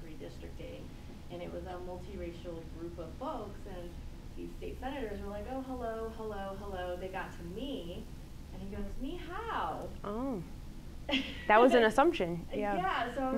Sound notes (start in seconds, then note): 8.3 speaks in foreign language; 11.0 laughs